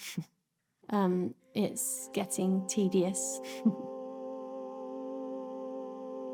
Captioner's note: softly chuckles